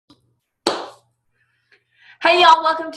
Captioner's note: clap